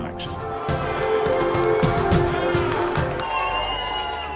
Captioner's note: crowd cheering